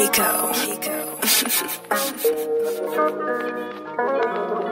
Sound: laughs

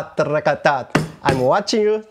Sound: vocalizes rhythm

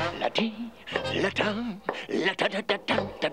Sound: humming

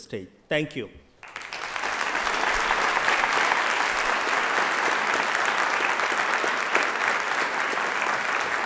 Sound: applause

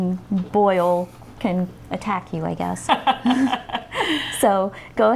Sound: laugh

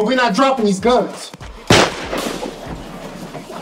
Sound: gun fires

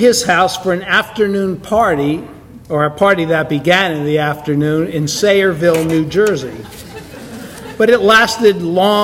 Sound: audience laughter

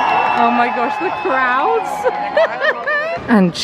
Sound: crowd cheers

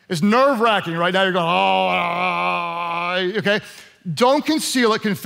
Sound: groans

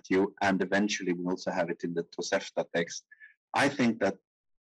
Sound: speaking in foreign language

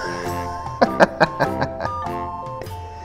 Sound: laughs

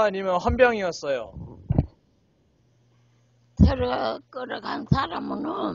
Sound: speaks in foreign language

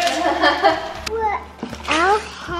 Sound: laughing

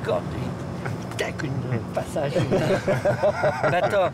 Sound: laughter

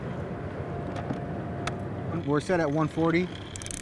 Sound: reel spinning

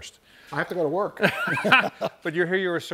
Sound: laughs

